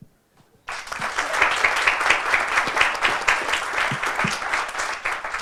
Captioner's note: audience applauding